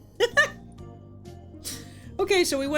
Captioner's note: laughs